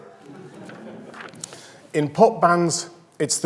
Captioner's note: audience laughs